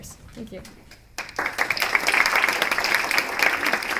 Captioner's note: applause